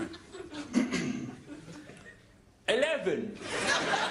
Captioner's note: clears throat; laughter